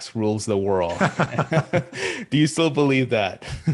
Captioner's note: both laughing